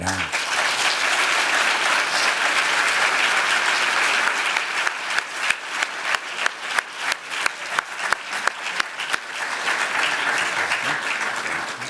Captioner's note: applause